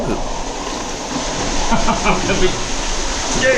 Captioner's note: laughing